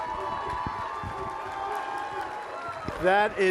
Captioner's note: applause